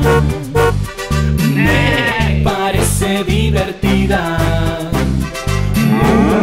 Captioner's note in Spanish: Sonido de gato; Bocina; Sonido de oveja; Sonido de vaca